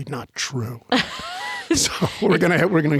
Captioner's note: laughing